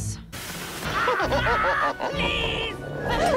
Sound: chuckling

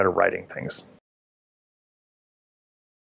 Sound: silence

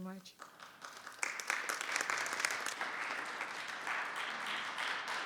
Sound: audience clapping

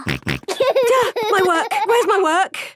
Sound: snorts; giggling

